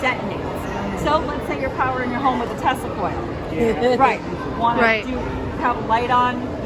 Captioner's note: laughter